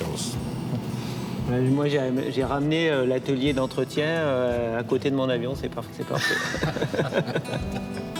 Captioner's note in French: rires